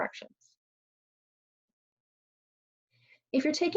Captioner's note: pause